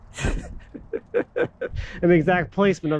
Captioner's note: laughing